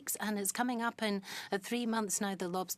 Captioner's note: speaking in French